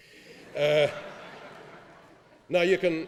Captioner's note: laughing